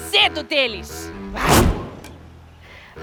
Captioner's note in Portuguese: grunhe